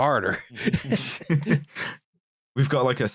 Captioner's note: laughter